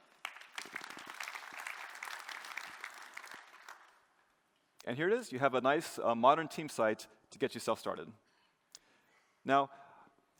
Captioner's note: applause